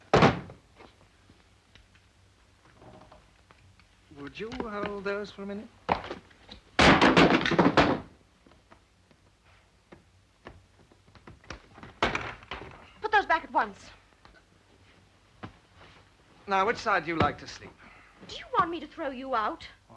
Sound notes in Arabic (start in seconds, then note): 6.8 صندوق يطرق على الأرض; 11.4 صوت الحقيبة